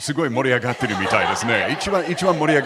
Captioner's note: laugh